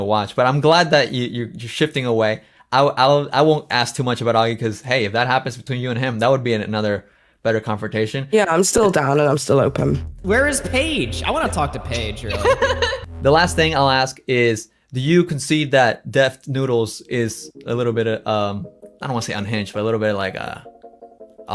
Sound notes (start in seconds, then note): 12.4 laughs